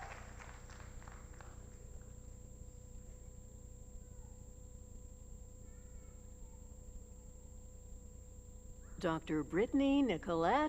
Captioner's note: applause